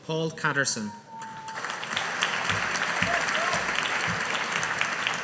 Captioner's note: audience applauding